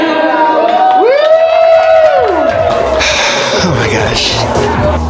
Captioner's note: group cheers